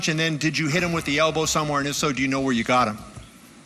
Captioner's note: none